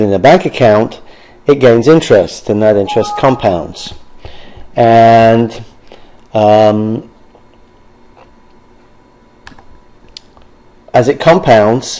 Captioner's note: computer error tone